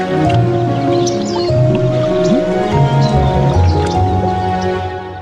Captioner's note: gentle music; birds tweeting; bubbles popping